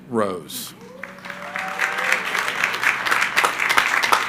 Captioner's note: crowd applauding